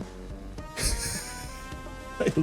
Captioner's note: giggles